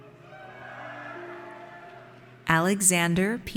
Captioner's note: audience cheers